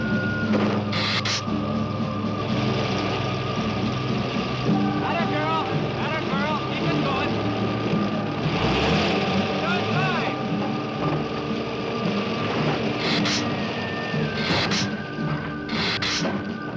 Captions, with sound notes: 'Atta girl, 'atta girl, keep it goin'. Doin' fine! (Gila monster hissing)